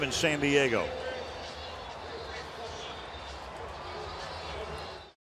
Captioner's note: pa announcement